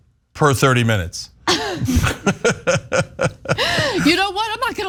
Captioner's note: laugh